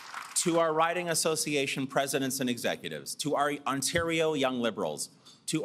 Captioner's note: applause